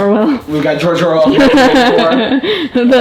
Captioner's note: laughs